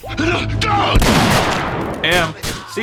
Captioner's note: yelling; gunshot